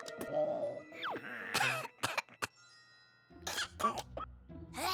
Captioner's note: coughs